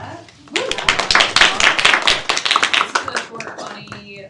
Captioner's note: students clap